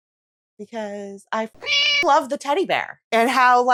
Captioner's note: meow